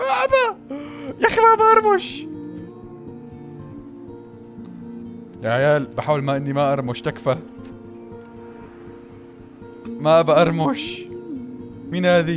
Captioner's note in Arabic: همهمة